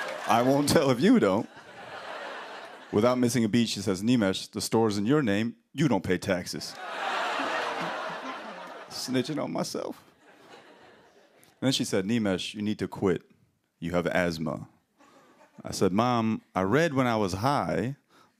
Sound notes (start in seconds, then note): 6.7 laughter, audience "Ohhs"